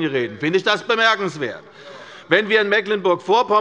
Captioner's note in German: Zurufe von Abgeordneten der SPD